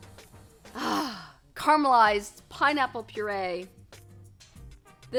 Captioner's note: sighs